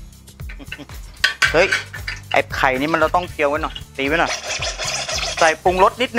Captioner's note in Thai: เสียงสแครช